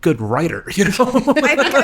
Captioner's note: laughing